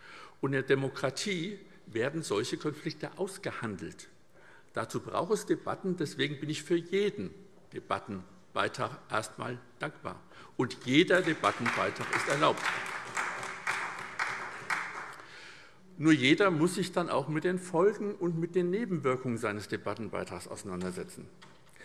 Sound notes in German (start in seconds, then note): 14.1 Beifall SPD